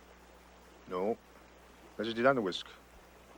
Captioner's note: speaks foreign language